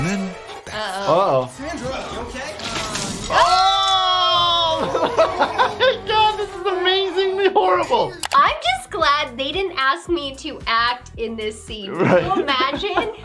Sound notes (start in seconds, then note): 2.2 both yelling; 4.7 doctor laughs